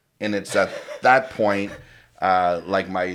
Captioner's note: laughs